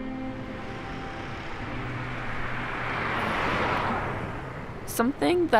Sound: vehicle whooshing

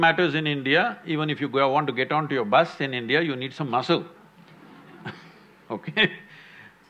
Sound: laughs

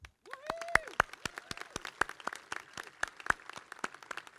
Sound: crowd clapping

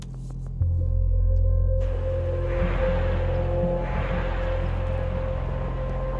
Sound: car engine purring; wind blowing

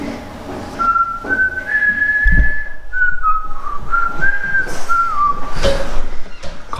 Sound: whistle

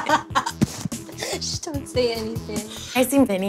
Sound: laughter

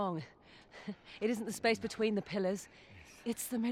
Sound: laugh

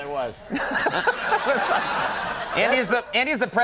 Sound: Conan laughing; audience laughing

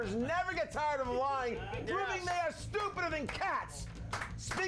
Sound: scattered applause

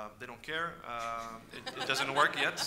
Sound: audience laughs

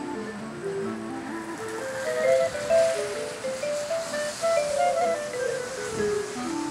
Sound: sizzling

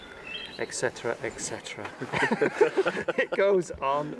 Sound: laughter

